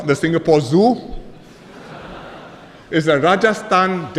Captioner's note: laughter